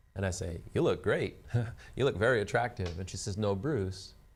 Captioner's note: laughs